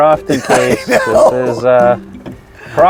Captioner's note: laughs